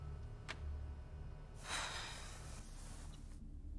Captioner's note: Alice sighs